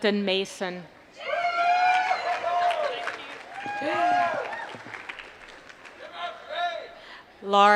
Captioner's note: applause